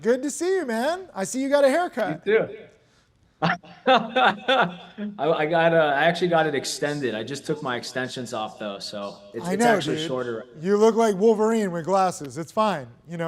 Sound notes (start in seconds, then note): 3.4 laughs